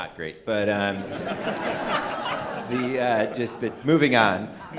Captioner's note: audience laughing